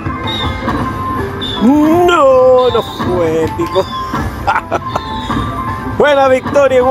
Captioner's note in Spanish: risas